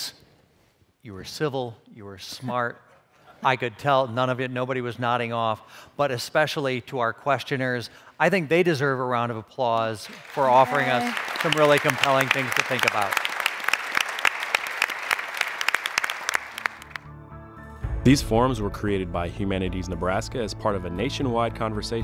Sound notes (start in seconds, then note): 13.1 applause